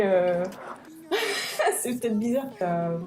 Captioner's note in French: rire